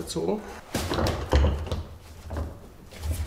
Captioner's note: clattering